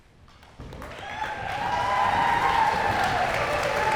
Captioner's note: cheers and applause